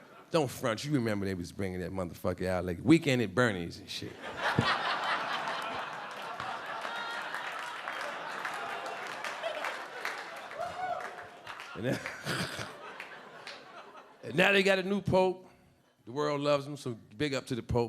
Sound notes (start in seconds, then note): 0.0 audience laughing; 4.3 audience laughing and clapping; 11.7 Charlie laughing